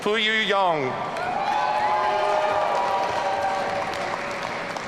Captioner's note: audience cheering